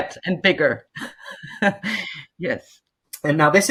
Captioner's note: chuckles